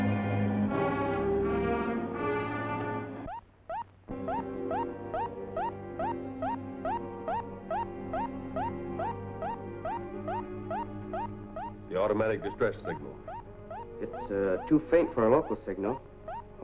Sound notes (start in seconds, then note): 3.2 alarm beeping